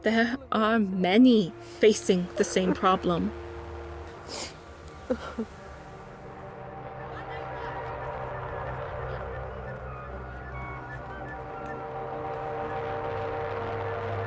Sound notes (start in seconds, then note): 4.1 sniffles; 7.5 children chatting; 11.3 birds chirping